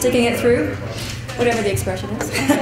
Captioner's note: chuckles